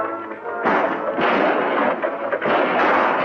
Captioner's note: guns firing